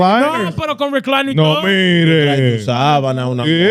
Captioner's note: speaking In Foreign Language